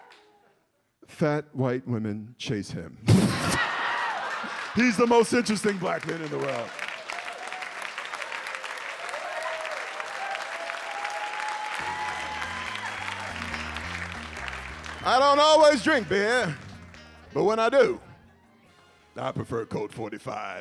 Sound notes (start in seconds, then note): 7.0 audience applauds; 9.3 audience cheers